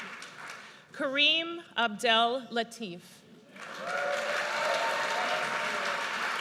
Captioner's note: audience cheers